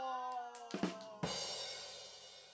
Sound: clapping hands

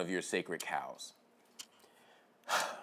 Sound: sighs

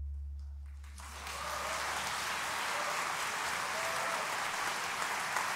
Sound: audience applauding

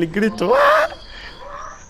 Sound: best scream ever

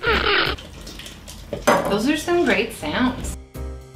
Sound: water swooshes

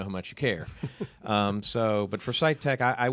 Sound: chuckling

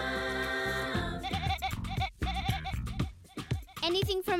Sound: bleating to the beat

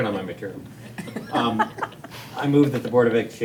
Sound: all chuckling

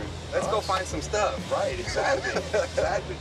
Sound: laughing

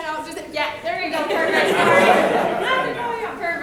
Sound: people laughing

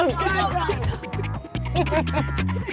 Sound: girls giggling

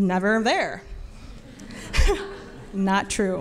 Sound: laughs

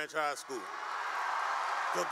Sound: cheering and applause

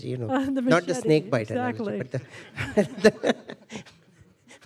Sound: laughter

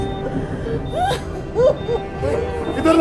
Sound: crying

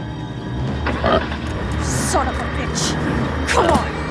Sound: car engine starting

